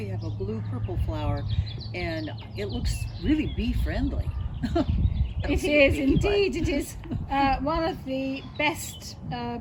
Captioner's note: laughs